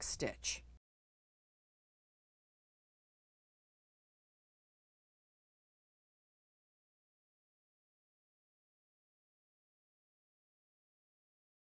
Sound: no Sound Present

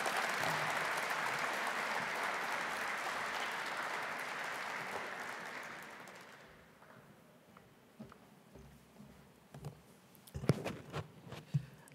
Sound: applause

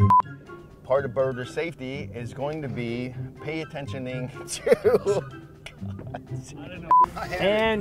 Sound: laughter

